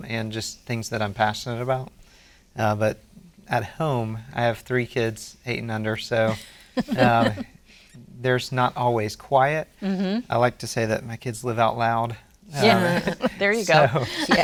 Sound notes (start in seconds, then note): 6.8 laughs